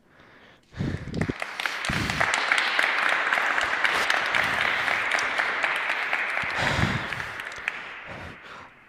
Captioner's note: applause